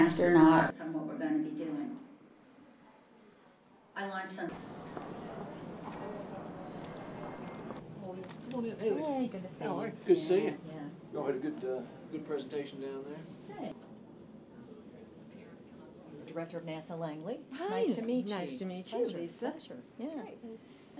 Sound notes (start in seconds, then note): 4.5 footsteps